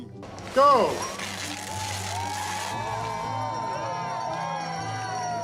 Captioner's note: crowd cheers